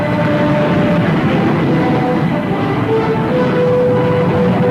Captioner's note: plane engines revving